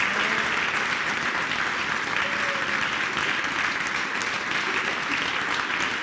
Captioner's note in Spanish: aplausos